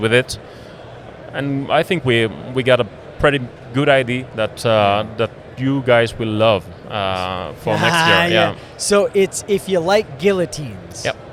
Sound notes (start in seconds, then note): 7.6 laughs